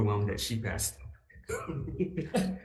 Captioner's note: laughs